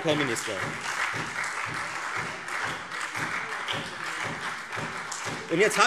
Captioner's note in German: Beifall Freie Demokraten, SPD und vereinzelt DIE LINKE